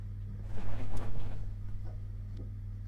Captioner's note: whoosh